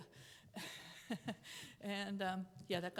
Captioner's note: chuckles